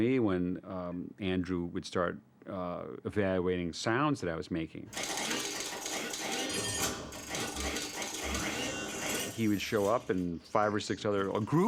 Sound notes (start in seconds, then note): 5.0 METALLlC CLATTERlNG; 7.1 SERVOS WHlNlNG